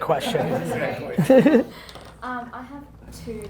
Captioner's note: laughing